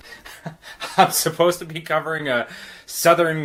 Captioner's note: chuckles